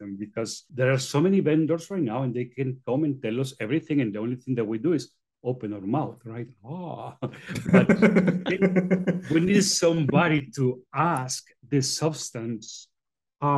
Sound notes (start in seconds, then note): 7.3 hosts laughing